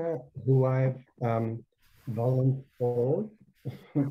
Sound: chuckles

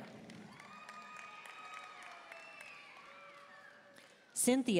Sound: audience cheering and applauding

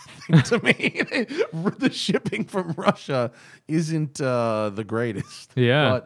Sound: laughter

